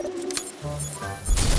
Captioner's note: electronic beeping